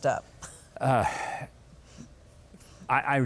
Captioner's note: laughs